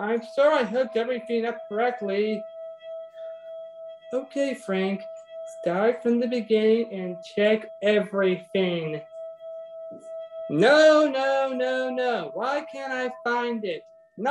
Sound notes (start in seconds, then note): 0.0 mysterious hum reverberating; 9.0 mysterious hum reverberating